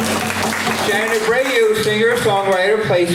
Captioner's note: applause